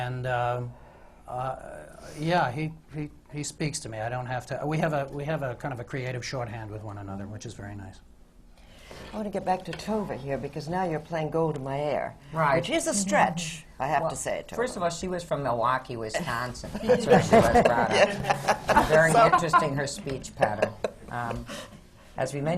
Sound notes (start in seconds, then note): 15.6 does the accent; 16.7 laughter